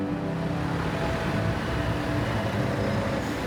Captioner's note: traffic hums